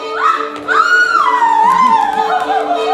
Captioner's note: screaming